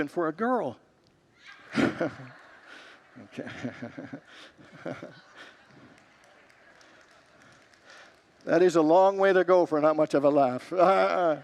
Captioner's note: congregants laugh; laughs